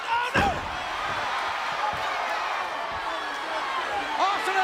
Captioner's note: crowd yelling